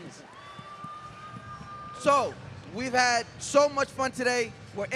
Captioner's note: crowd cheering